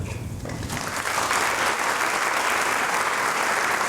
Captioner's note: applause